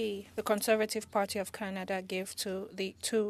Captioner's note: speaking French